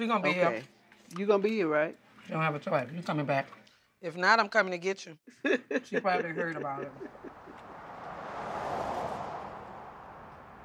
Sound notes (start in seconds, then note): 5.4 laughs